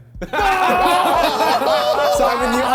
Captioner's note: men laughing; men cheering